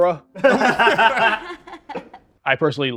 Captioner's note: all laughing